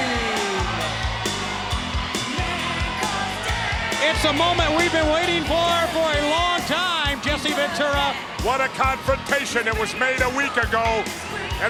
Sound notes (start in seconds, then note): 0.3 upbeat rock music continues; 2.1 crowd cheering